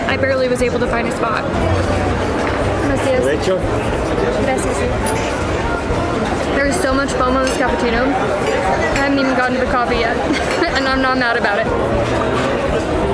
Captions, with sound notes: I barely was able to find a spot. (speaking in Spanish) There is so much foam on this cappuccino. I haven't even gotten to the coffee yet, and I'm not mad about it.